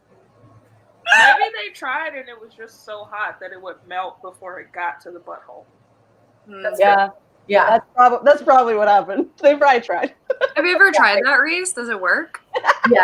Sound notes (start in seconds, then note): 10.1 laughs